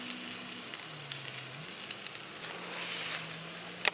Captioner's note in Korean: 지글지글